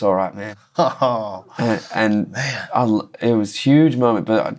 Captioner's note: laughter